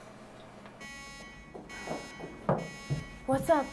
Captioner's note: alarm beeping